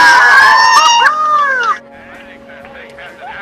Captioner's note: team cheering